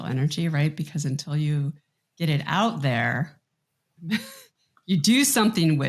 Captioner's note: chuckles